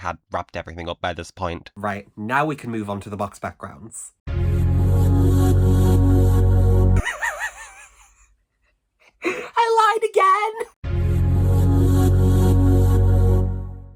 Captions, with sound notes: had wrapped everything up by this point. Right, now we can move onto the box backgrounds. *laughs* I lied again!